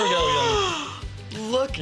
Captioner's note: gasping